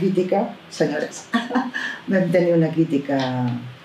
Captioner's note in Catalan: riures